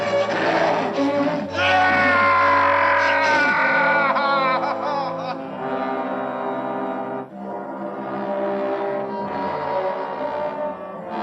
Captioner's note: screaming